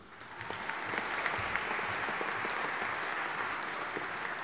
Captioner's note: audience applauding